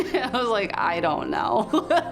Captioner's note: laughs